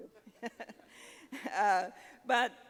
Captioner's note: audience laughing; laughing